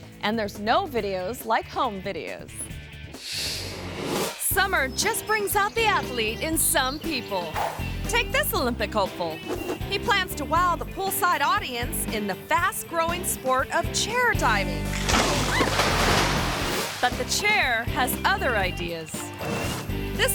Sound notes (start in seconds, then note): 3.2 screen swooshes; 14.5 diver splashes; 15.0 camera person yelps; 15.0 chair cracks